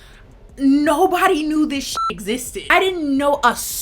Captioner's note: beep